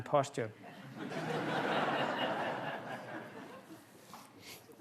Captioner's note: laughter